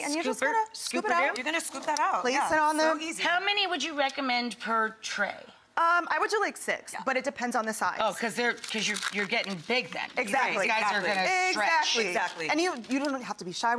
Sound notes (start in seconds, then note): none